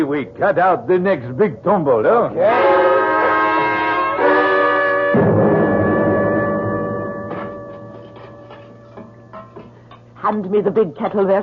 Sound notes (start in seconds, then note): 2.4 horns honking; 5.1 thud